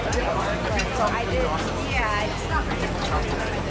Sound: crowd talking

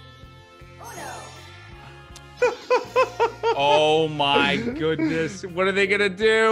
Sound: laugh

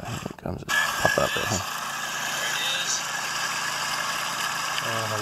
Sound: boat motor roaring

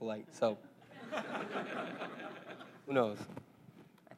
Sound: laugh

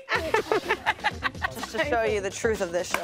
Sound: laughing

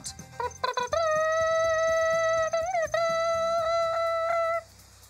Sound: mimics royal trumpet

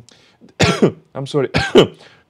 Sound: coughs

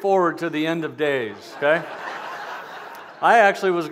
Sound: laughter

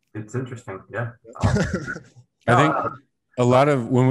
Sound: laughing

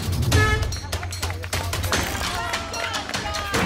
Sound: hooter honks

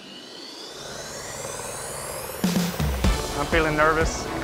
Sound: helicopter whirring

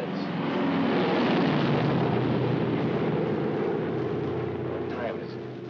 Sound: aircraft roars overhead

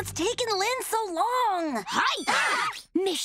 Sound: screaming

